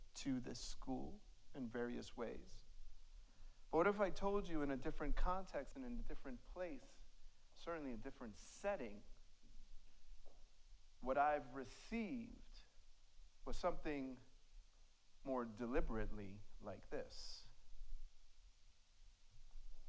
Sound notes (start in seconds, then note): none